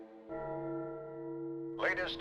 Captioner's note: bell tolling